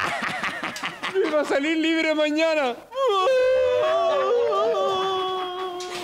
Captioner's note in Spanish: Llorando